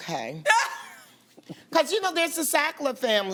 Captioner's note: laughs